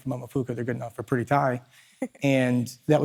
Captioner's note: chuckles